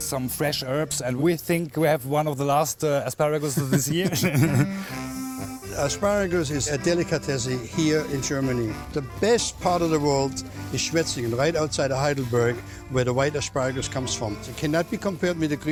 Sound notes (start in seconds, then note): 3.6 laughs